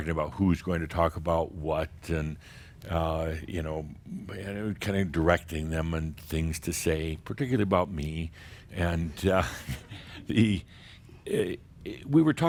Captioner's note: a few chuckles